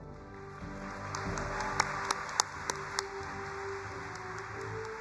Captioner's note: audience applauds